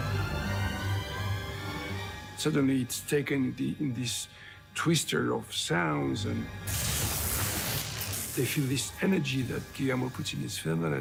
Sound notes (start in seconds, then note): 6.6 lightning strikes